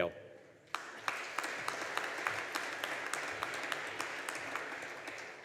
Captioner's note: audience applauding